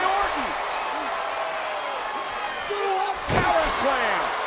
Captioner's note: crowd cheering